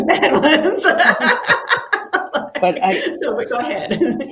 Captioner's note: panelists laughing